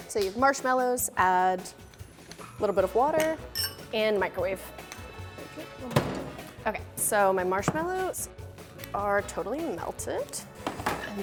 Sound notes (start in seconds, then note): none